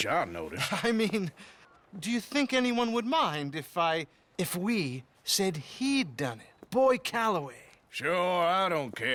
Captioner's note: chuckles